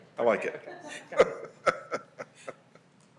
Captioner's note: laughter